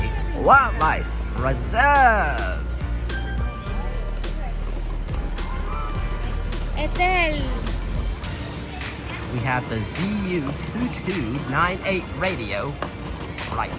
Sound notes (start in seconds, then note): 2.9 walking